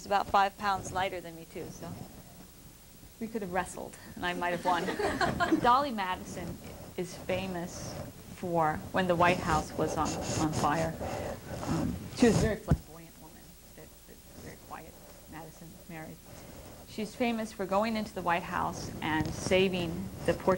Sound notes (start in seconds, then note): 4.6 laughter